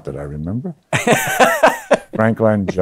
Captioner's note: laughs